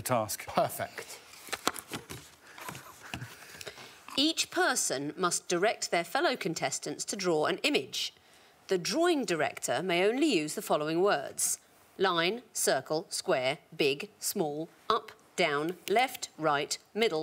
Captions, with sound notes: Would you like Victoria Coren Mitchell to read the task? -Perfect. -[envelope rustling] Each person must direct their fellow contestants to draw an image. The drawing director may only use the following words: Line, circle, square, big, small, up,